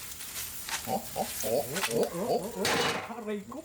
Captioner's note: bullfrog sounds